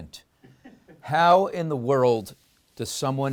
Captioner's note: laughs